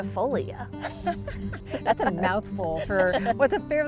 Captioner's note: both laughing